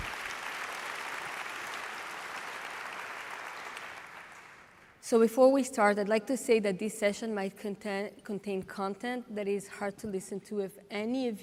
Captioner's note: applause